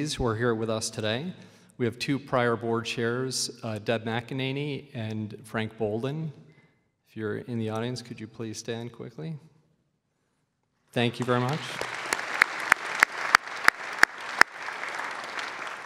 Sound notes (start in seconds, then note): 11.0 clapping